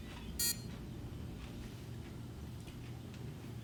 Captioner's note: watch beeps